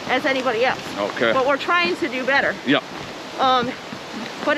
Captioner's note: none